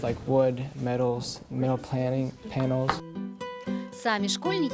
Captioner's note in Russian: английская речь